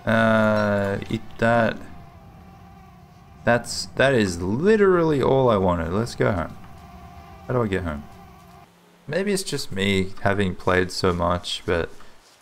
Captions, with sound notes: Uhh, eat that. [mosquito buzzing] That's- that is literally all I wanted, let's go home. How do I get home. Maybe it's just me having played so much, but...